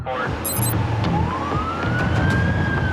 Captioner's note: sirens blaring; digital beeping